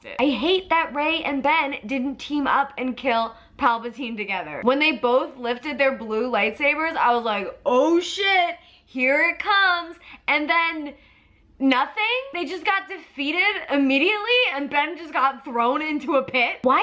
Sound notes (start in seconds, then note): none